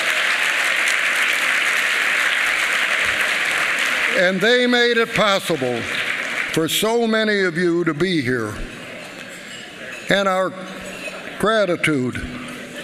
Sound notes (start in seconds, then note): 0.0 applause